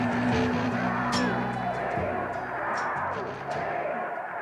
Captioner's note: protestors chanting